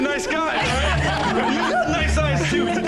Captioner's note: laughing